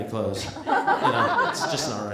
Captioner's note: laughter